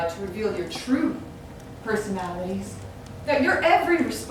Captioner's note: none